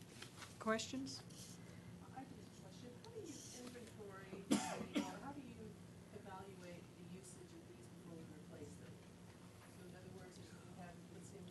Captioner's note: off mic